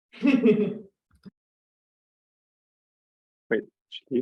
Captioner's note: laughs